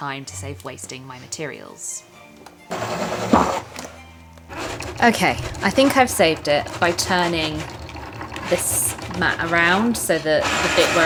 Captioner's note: machine whirrs